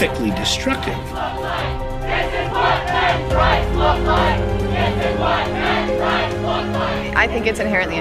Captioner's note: chanting